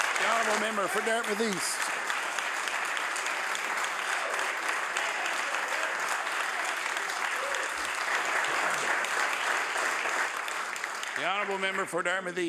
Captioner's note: some applause